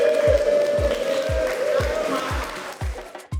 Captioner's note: applause